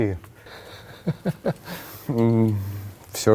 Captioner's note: laugh